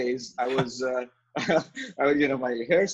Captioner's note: both laughing